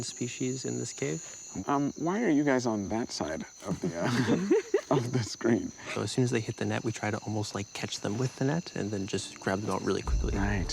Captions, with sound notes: - We have records of seven species in this cave. - Why are you guys on that side- (all laughing) of the screen? - So as soon as they hit the net, we try to almost like catch them with the net and then just grab them out really quickly.